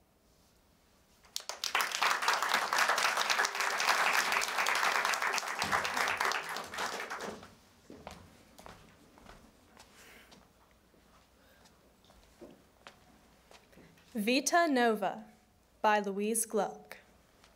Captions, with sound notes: [applause] - "Vita Nova" by Louise Gluck.